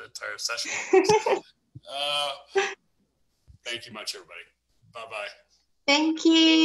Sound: laughs

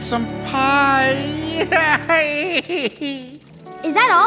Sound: crying

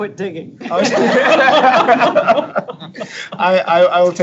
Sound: laughing

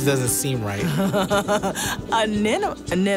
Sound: laughs

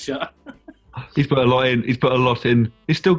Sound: gasps

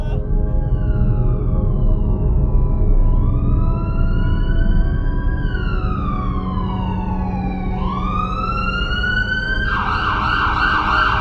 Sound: ambulance siren

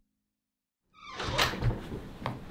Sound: door Shuts

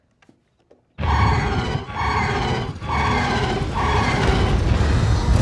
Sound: whirring

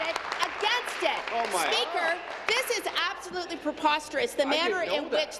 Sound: applause

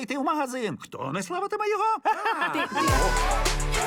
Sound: laughs

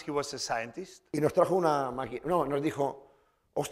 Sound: speaking spanish

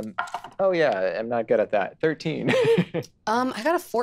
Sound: chuckling

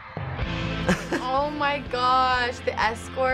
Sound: laughing

